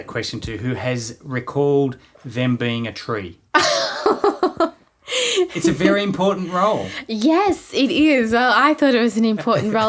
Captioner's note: laughing